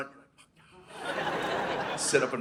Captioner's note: audience laughing